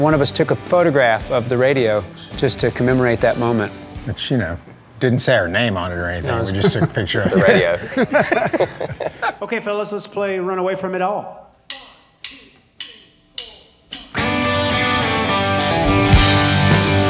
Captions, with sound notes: One of us took a photograph of the radio just to commemorate that moment. - But you know it didn't say our name on it or anything. - No (laughs) - We just took a picture of a radio. (laughing) - OK fellas, let's play "Run Away From It All" (drum sticks tapping) (upbeat rock)